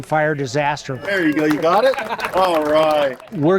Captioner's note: everyone clapping